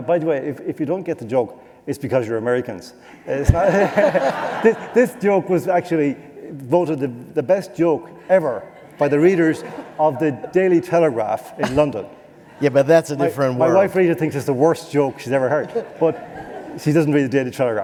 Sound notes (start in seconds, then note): 3.4 laughter